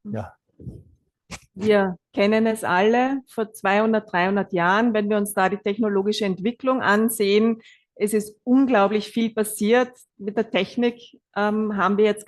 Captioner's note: German live translation